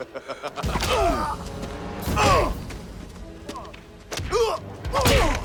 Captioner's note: Knox laughs; Knox and Dalton grunting; blows thudding; tense music continues